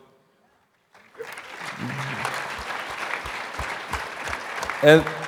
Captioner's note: audience applauding